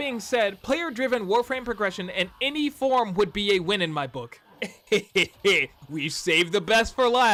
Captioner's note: meme'd laughter